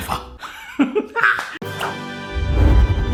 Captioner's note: chuckles; dramatic music